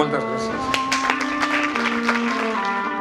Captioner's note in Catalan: aplaudiments